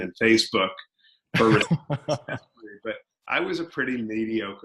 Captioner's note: laughs